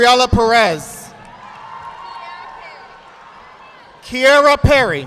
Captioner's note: audience applauding